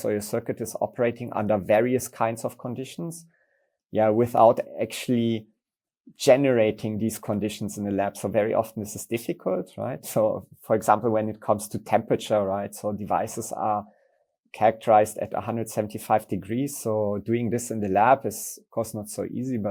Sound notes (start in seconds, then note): none